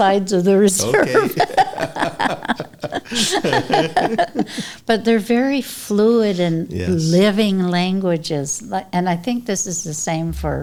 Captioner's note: laughter